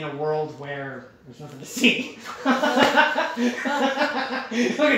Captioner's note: laughter